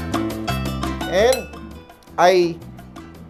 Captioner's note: clang